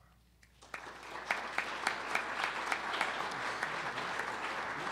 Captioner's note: audience applauds